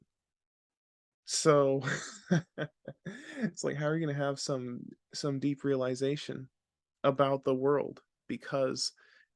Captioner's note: laughs